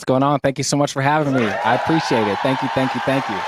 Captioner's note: applaud Sound Effects